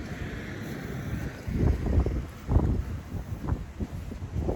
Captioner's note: wind gusts